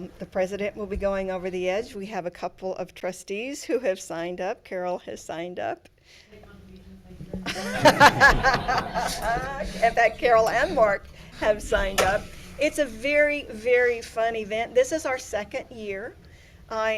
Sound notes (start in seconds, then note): 7.5 everyone laughing